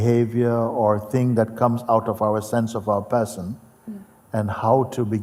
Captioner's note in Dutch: none